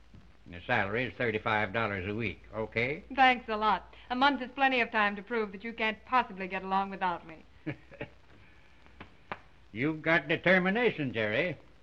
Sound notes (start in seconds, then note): 7.6 chuckles